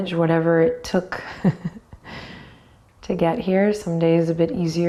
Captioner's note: chuckles